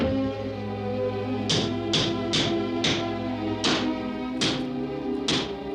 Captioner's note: metal clattering